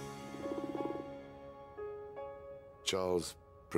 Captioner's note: frog croaks